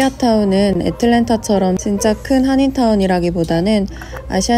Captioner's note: gobbling